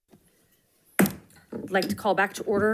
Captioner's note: gavel bangs